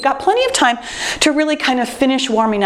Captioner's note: timer beeps